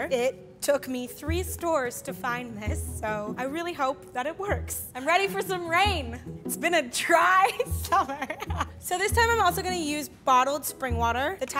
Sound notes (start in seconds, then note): 7.7 laughs